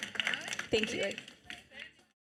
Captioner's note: audience applauding